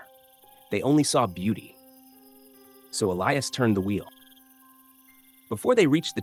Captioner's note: pause